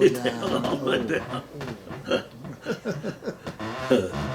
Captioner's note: laughing